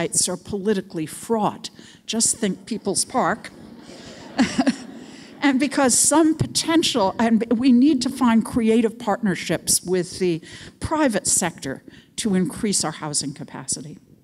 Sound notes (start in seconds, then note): 2.4 audience laughs